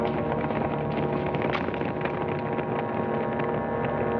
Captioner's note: horses galloping